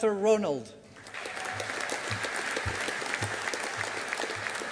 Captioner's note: audience applauding